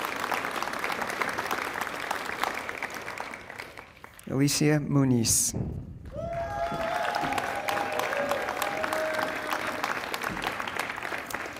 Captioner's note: applause